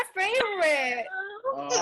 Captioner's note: chatter